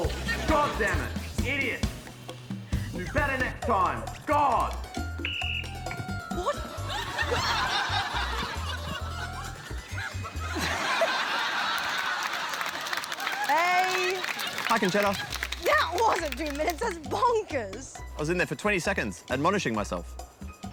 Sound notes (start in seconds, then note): 5.1 blows whistle; 7.2 laughter